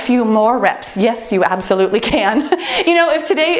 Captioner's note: laughs